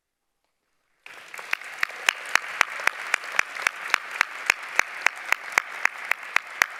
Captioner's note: applause